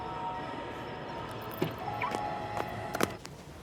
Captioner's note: car beeps